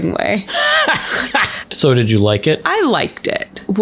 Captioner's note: laughs